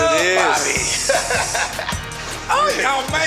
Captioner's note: laughing